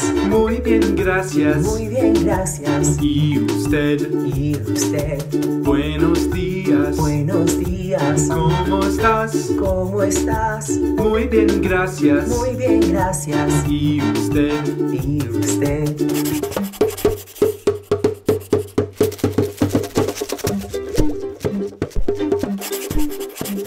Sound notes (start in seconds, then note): 16.0 pencil writing; 20.3 drum beat plays